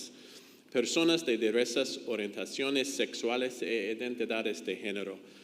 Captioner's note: speaks in foreign language